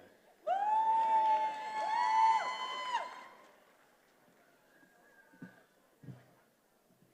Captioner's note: attendees applauding and cheering